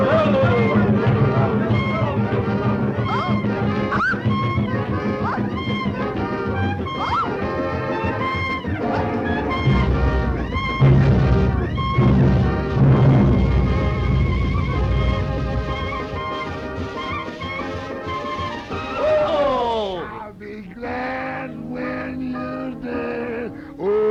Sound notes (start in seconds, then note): 0.1 villagers chattering; 3.8 Betty squealing; 5.8 upbeat jazz music continues; 11.1 volcano whooshing